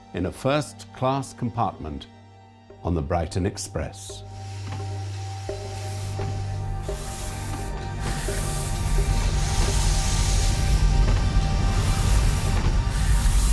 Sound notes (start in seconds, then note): 4.5 steam hissing; 7.2 ominous orchestral music